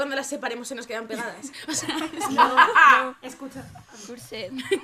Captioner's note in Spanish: risas